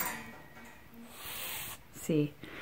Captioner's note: hisses